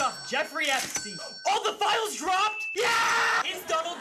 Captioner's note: cash register dings